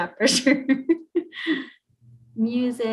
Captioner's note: chuckles